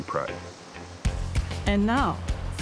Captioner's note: water rushing